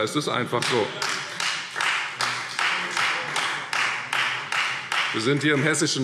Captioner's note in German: Beifall Freie Demokraten